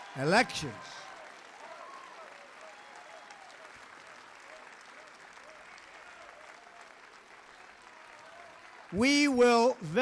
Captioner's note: applause